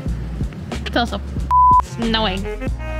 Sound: beep

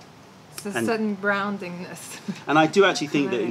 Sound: laughter

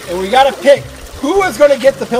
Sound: water splashing

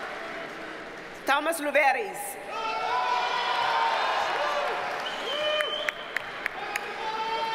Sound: audience cheers and applauds

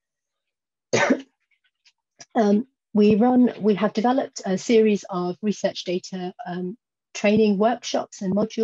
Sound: cough

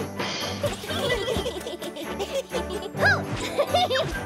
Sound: laughs

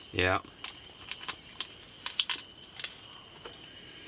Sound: wet gnawing

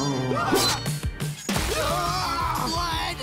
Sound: screaming

